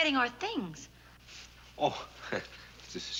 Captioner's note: chuckles